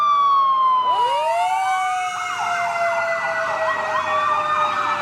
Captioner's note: firetruck horns